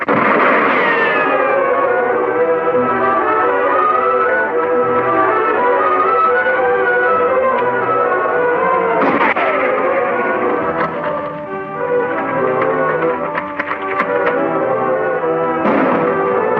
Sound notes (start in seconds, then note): 0.0 gun firing; 2.1 dramatic orchestral music; 8.9 guns firing; 12.6 dramatic orchestral music